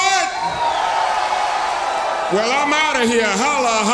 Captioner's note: audience cheers